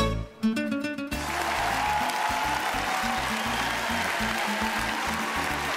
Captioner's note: cheering